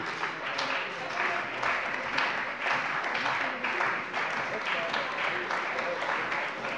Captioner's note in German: Beifall bei dem BÜNDNIS 90/DIE GRÜNEN und der CDU